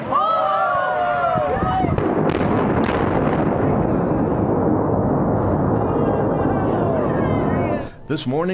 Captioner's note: explosion